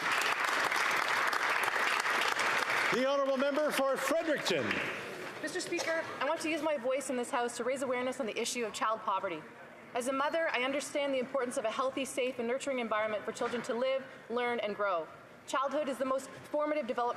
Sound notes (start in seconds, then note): 4.3 applause